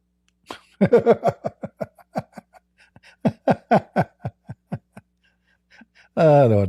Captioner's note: Ketawa